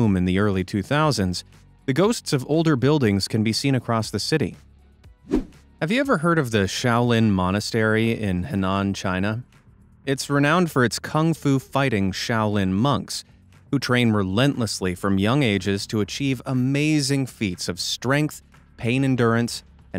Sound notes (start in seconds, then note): 5.2 swoosh